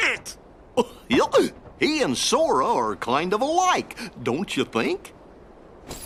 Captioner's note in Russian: непереводимые звуки Гуфи